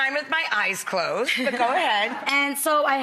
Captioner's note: laughing